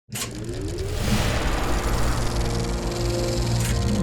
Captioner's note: film reel spooling up